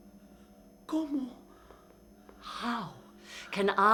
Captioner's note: speaking in foreign language